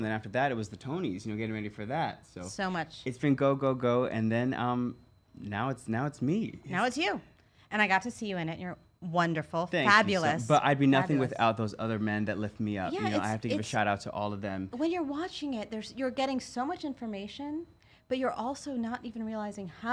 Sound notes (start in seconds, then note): none